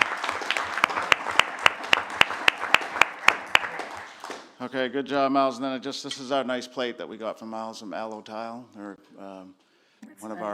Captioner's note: applause